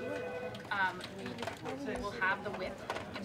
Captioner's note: indistinct chatter